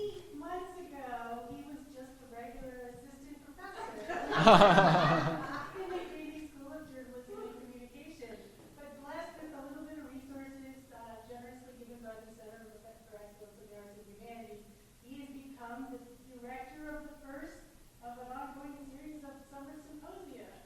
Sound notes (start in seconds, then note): 3.8 laughter